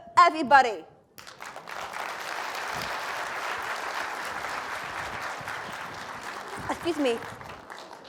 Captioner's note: applause